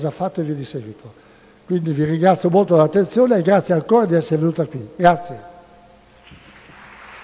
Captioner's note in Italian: Applauso